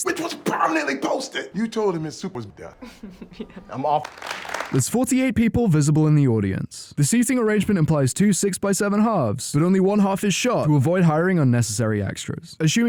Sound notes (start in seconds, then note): 2.8 little rosa giggle; 3.9 clap clap clap